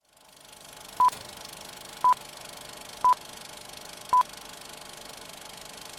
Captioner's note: film reeling; beeping